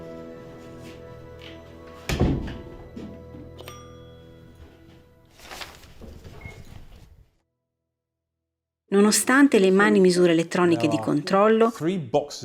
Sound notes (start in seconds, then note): 2.4 door and bell noise